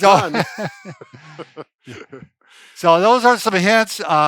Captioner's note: chuckling